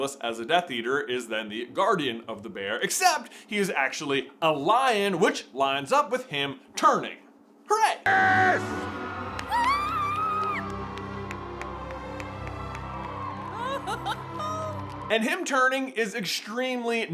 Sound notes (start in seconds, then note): 13.2 golf clap; 13.6 giggling